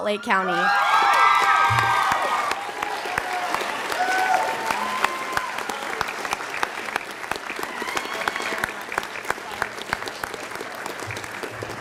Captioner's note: sound of applause and cheering from the audience